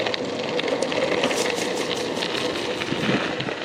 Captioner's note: tire pops